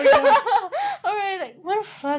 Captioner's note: again with the laughing